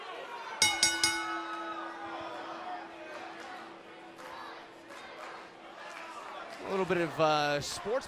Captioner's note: bell ringing